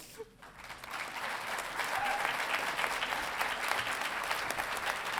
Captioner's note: audience applauding